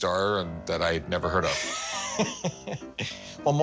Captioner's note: laughter